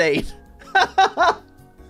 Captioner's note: laughs